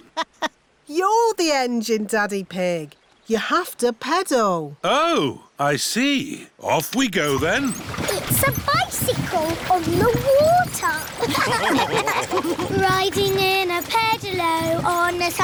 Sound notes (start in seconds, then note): 0.0 laughs; 11.1 all laughing